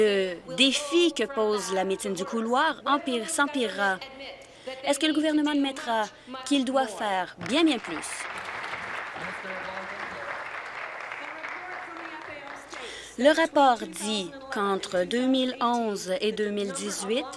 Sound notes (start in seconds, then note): 10.2 applause